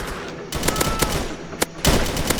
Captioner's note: scream of the dead